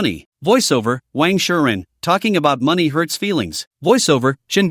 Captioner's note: voiceover